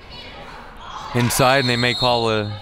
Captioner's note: referee blows whistle